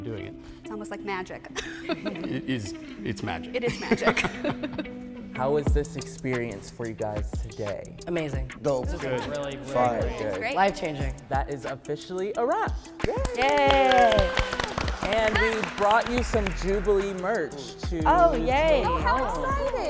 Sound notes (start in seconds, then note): 3.8 everybody laughing; 13.0 everyone clapping